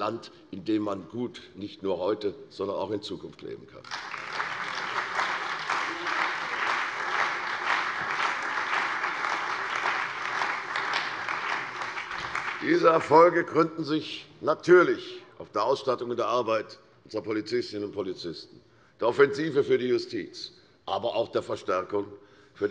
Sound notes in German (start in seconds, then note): 3.8 Beifall bei der CDU und dem BÜNDNIS 90/DIE GRÜNEN